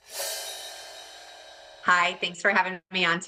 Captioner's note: graphic whooshing